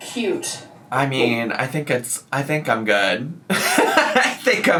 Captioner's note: laughs